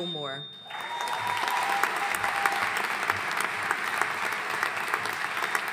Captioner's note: audience cheering and applauding